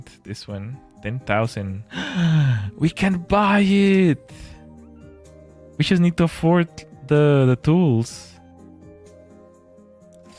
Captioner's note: gasps